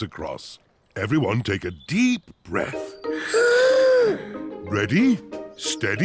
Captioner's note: all inhale